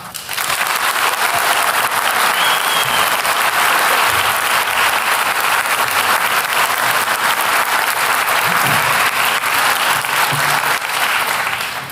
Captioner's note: applause